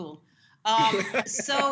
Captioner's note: laughter